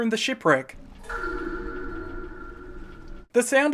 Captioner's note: dripping intensifies